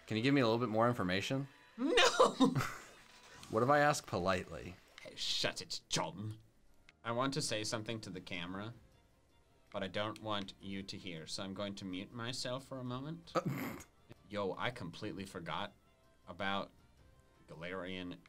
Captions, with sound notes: - Can you give me a little bit more information? - No. (laughs) - What if I asked politely? - Hey, shut it, John. I want to say something to the camera, but I don't want you to hear, so I'm going to mute myself for a moment. Yo, I completely forgot about Galarian Yamask